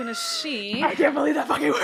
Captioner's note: gasps